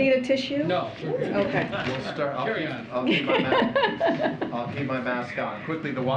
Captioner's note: laughter